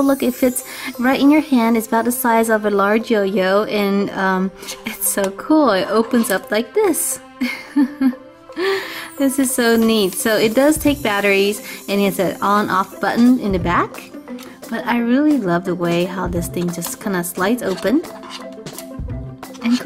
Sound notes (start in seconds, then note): 7.4 laughs